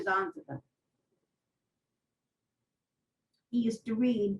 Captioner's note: pauses for 3 seconds